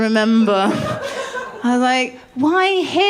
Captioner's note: laughter